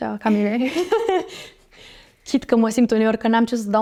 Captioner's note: girls giggle